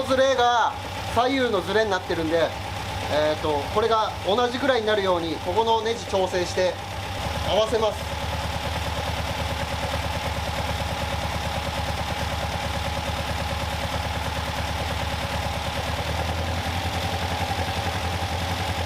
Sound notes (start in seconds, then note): 8.0 engine whirring